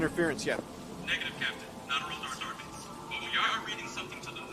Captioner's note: Cutty's comm voice